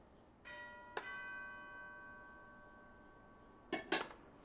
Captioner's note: doorbell ringing